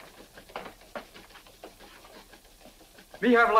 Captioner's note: footsteps tapping